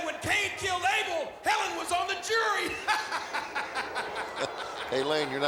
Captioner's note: laughs